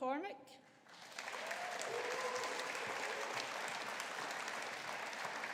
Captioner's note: audience applauding